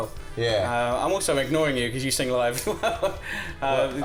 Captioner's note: laugh